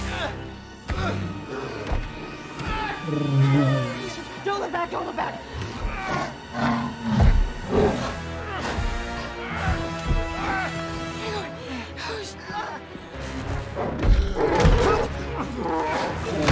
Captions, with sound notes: (Grunting) (Yells, strains) Don't look back. Don't look back. Hang on. Push.